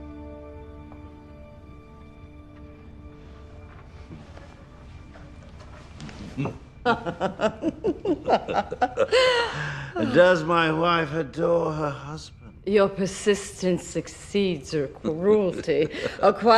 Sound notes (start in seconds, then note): 5.2 laughter